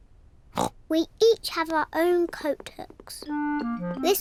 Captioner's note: oinks